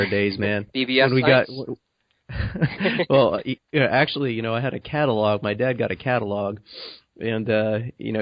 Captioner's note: chuckles; chuckles